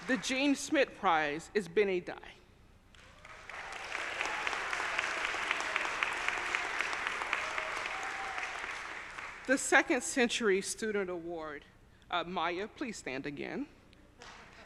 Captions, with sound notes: The Jean Schmidt prize is Bennie Dai. (audience applauding) (audience cheering) The Second Century Student Award. Maya, please stand again.